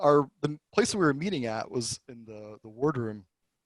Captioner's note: none